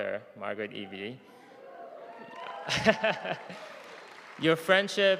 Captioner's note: audience cheering